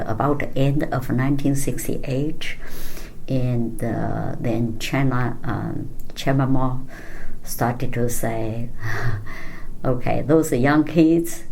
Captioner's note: laughs